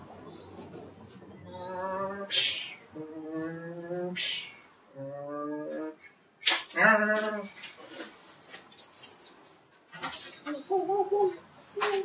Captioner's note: Unprepared Guy making car sounds